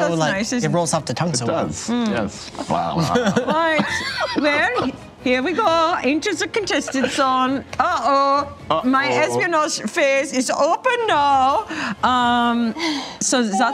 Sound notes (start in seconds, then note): 2.7 laughs; 5.4 imitating German accent